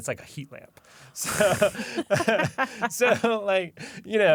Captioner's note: laughter